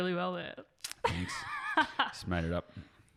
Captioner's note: laughs